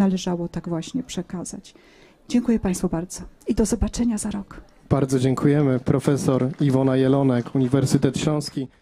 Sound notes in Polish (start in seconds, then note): 8.3 oklaski